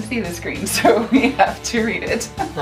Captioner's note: laughs